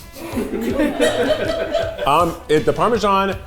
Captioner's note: cast laughing